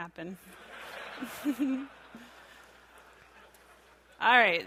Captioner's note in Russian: смеется